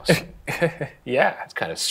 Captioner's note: laughs